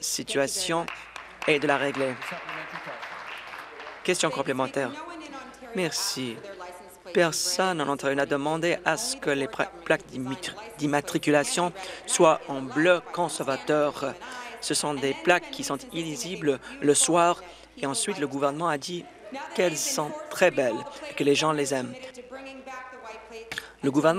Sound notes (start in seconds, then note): 4.8 applause